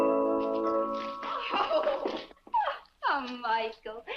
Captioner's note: laughs